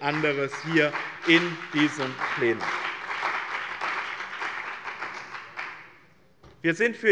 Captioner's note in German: Beifall bei dem BÜNDNIS 90/DIE GRÜNEN und der CDU